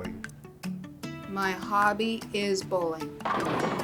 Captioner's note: bowling pins crash